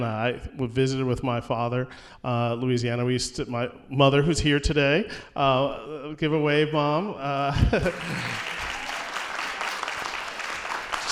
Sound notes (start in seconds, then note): 7.8 applause